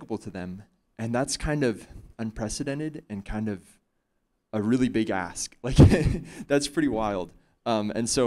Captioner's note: chuckle